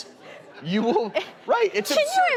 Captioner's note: laughing